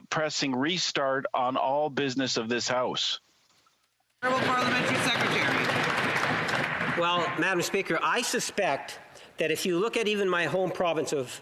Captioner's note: applause